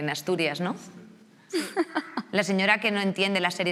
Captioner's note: laughs